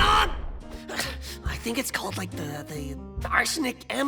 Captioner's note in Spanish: Suspiro